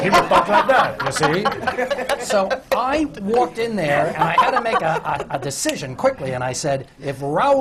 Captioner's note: laughter; back to his own voice